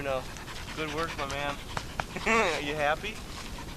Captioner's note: laughs